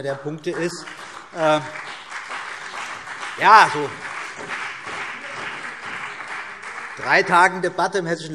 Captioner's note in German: Beifall CDU und BÜNDNIS 90/DIE GRÜNEN